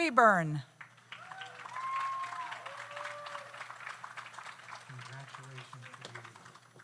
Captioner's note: audience applauds; audience cheers